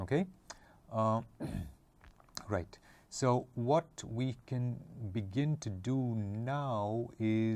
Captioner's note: cough